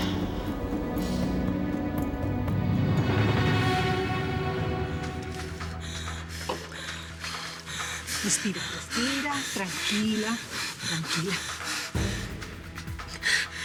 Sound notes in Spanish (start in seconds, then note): 8.3 Fabiola jadea